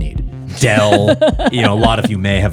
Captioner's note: laughing